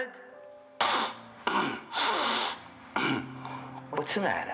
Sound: snorting

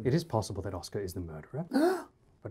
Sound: Oscar gasps

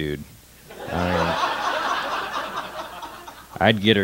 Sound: laughter

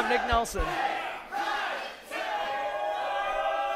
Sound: crowd

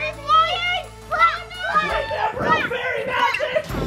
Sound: kids screaming

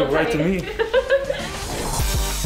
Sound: laughter

